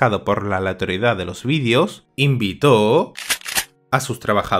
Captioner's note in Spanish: escopeta recargando